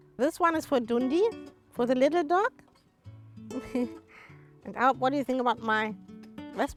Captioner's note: chuckles